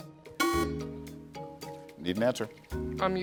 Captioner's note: buzzer sounding